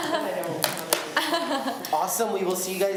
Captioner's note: laughs